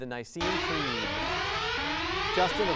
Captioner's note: loud sirens; ringing